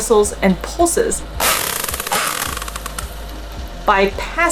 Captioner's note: whale vocalizations